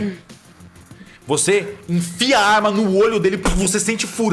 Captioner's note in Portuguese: puff